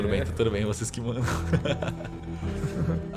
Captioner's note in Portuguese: risos